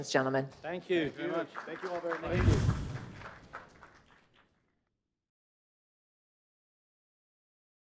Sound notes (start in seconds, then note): 4.6 audience applauds